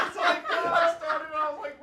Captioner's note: all laughing